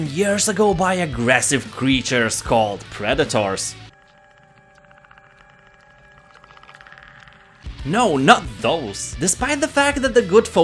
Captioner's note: Predator sound